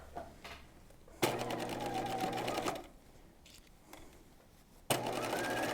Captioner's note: sewing machine whirs